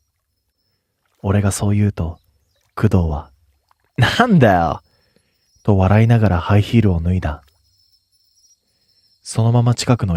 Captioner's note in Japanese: 咳払い